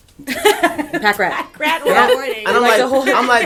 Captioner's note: laughs